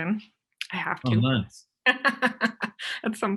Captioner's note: laughs